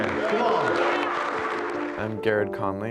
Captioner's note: audience cheering